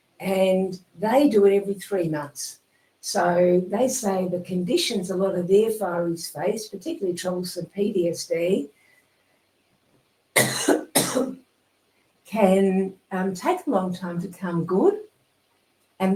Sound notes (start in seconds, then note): 10.4 coughing